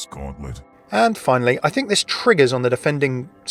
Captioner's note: voiceover